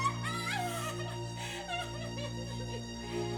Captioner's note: crying